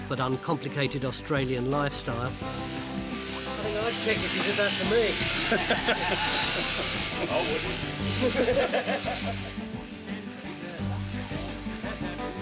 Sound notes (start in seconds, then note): 5.4 everyone laughs; 6.4 electric shears buzzing; 8.1 everyone laughs